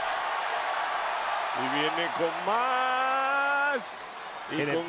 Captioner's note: applause